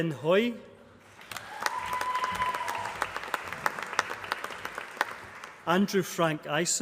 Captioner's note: applause